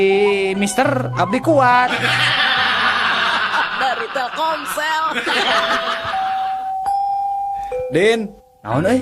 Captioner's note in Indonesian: tertawa